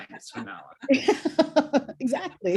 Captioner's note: laughter